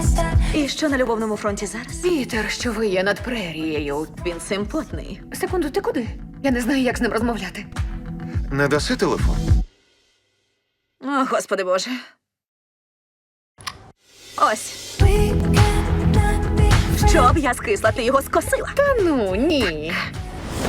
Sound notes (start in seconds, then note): 13.5 cell phone clicks